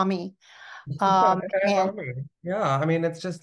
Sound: faintly speaking

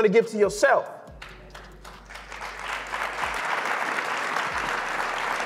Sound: audience claps

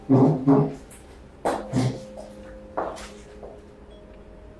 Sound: chair skidding; footsteps

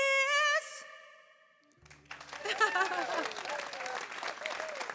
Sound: applause

